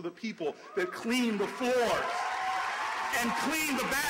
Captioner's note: applause and cheers throughout